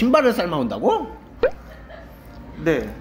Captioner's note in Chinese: 哈哈哈哈哈哈哈哈哈